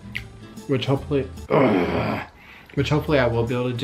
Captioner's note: groans